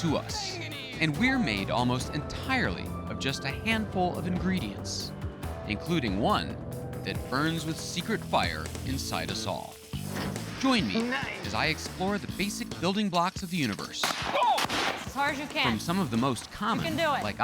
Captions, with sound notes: And we're made almost entirely of just a handful of ingredients, including one that burns with secret fire inside us all. Join me as I explore the basic building blocks of the universe. (explosion) Oh! From some of the most common, like oxygen...